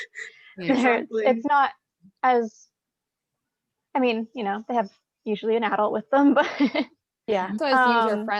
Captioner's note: chuckles